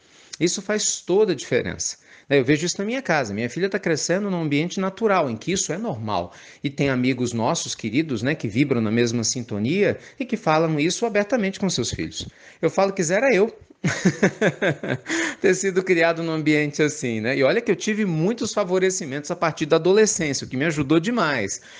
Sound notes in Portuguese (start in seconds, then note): 16.4 risadas